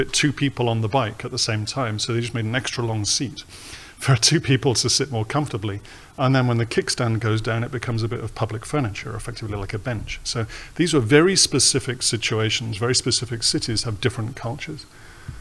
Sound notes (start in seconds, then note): none